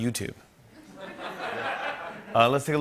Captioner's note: laughter